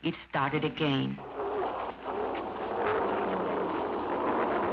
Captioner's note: car engine revving